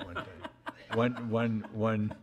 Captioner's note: laughing